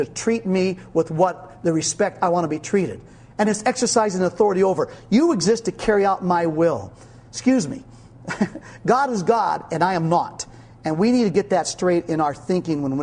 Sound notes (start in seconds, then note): 8.2 laughing